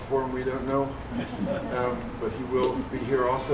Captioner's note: chuckling